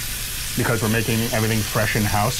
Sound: sizzling

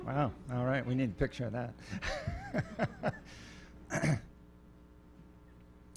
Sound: laughing

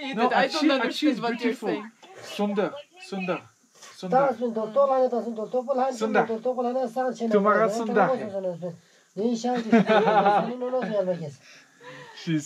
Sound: speaking foreign language

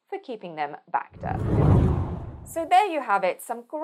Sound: screen whooshing

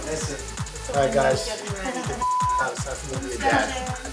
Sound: beep

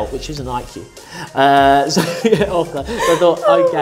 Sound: laughing

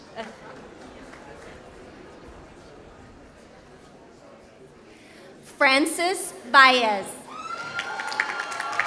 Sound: applause

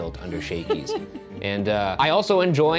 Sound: laughing

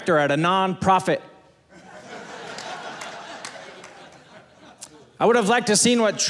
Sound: audience laughing

